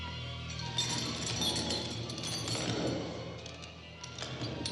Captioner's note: CHAINS RATTLlNG